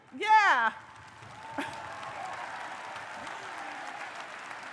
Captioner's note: audience cheers